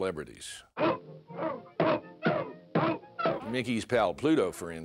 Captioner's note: barking